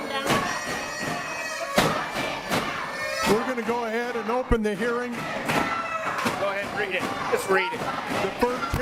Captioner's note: audience chanting shut it down